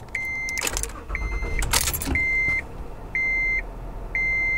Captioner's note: car starts